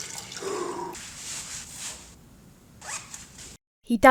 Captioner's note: water dripping; exhales sharply; fabric rustles; pocket zips